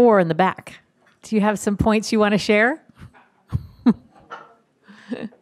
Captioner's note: laughs